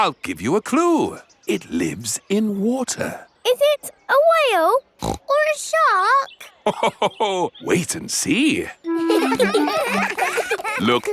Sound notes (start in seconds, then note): 5.0 snorts; 8.9 children laughing; 8.9 laughs